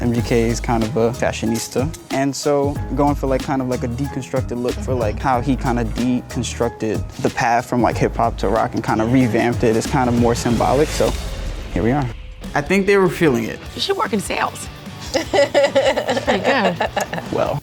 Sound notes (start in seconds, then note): 15.0 laughing